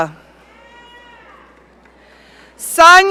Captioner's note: audience cheering